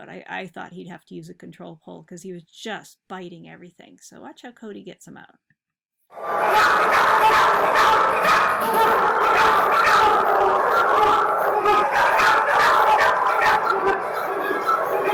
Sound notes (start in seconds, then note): 6.4 dog barks